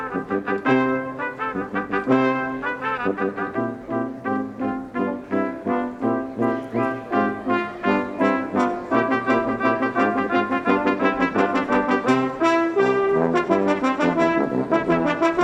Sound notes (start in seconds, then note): none